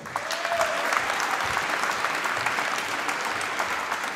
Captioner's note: applause